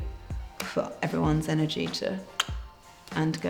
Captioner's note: clicks